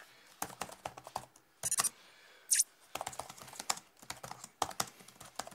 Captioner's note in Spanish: Sonido teclas y mensajes